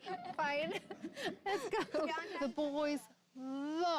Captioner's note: laughs